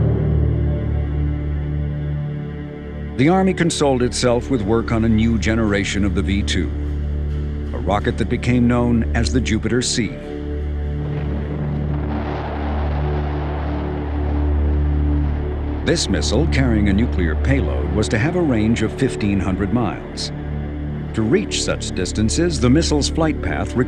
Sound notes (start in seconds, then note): 0.1 dramatic music; 10.8 ominous music; 11.0 rocket whooshing